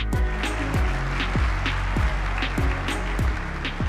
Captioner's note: clapping; upbeat music